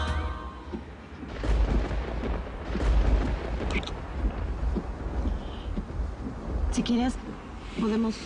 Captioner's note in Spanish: Ruidos de la tormenta